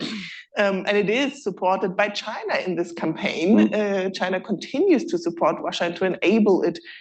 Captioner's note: laughs